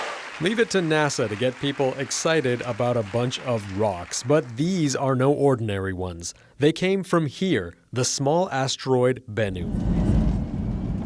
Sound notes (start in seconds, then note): 4.2 cheers and applause